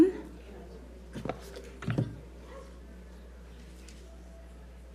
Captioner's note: audience softly murmuring